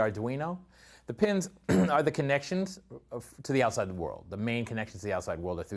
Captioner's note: cough